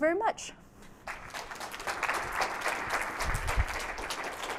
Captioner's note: applause